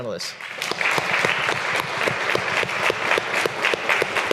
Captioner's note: all applauding